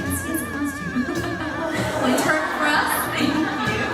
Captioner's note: laughing